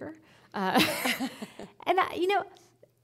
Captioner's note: laughing